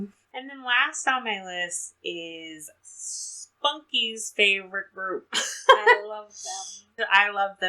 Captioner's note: laughs